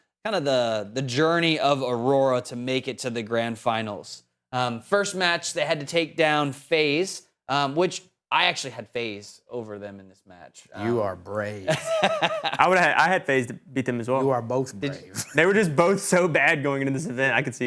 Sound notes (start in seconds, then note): 11.6 laughing